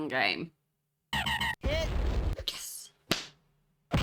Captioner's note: car alarm